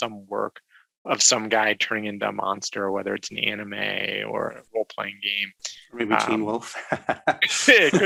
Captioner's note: laugh